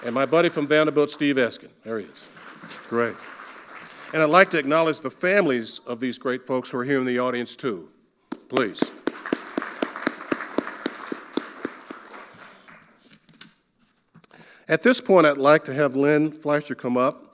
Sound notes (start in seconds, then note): 1.9 audience applauding; 8.3 clapping; 8.3 audience applauding; 13.0 papers rustling